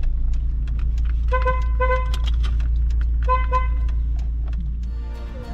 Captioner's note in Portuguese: Buzina